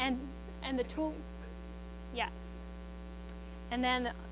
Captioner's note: student speaking quietly